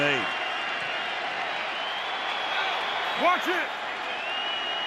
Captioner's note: cheering